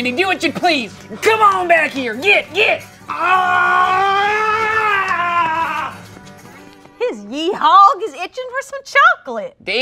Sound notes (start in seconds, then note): 3.4 Randy grunts